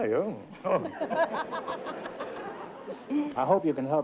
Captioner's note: laughs